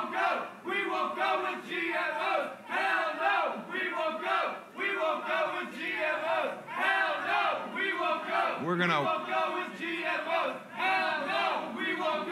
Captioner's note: protestors chanting